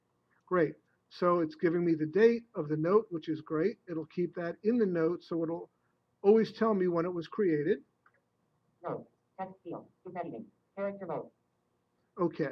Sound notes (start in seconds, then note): 9.1 software speaking